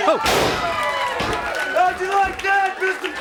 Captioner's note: body thuds